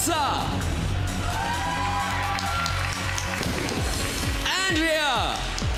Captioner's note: applause